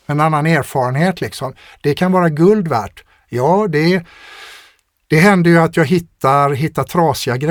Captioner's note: scoffs